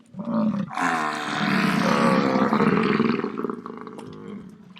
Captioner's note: buffalo sharply grunting